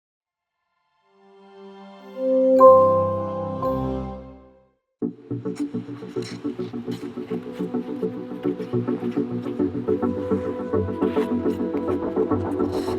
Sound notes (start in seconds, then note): 2.1 enchanting music; 5.2 pensive music; 5.2 skates scraping ice